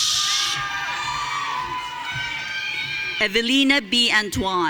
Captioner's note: audience cheering